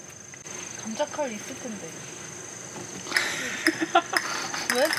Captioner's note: laughter